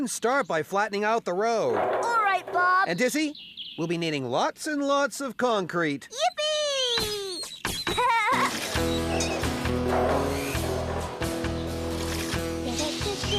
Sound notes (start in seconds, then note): 7.8 giggling; 10.2 roller Clanking